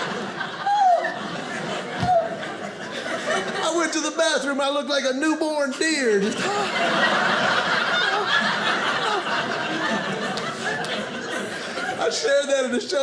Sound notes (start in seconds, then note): 0.0 audience laughing; 5.9 audience laughing